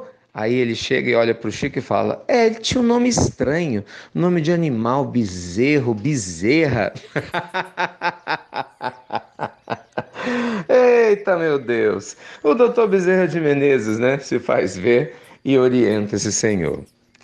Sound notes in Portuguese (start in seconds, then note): 9.4 risos